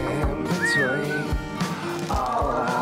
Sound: whistling

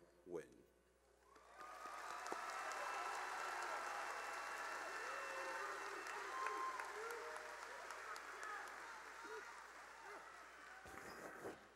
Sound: cheering and applause

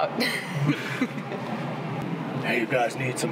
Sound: laughing

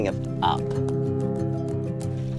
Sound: boat horn blares

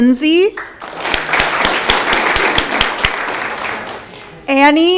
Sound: audience clapping

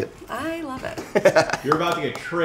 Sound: laughs

